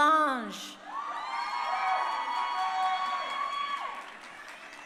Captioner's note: crowd cheering